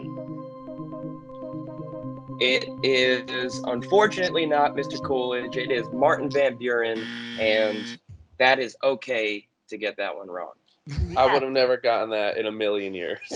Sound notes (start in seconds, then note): 0.0 game show music continues; 7.0 buzzer